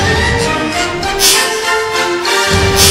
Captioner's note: epic music; slowed down smash; epic music